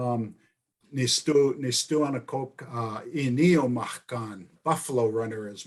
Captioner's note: speaking in foreign language